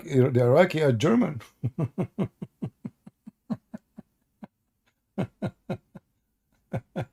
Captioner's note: Ketawa